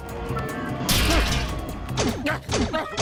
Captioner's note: metal crunching